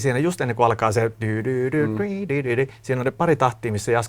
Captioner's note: hums the melody